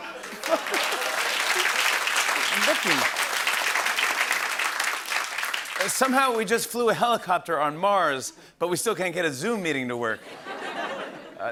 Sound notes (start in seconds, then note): 1.5 applause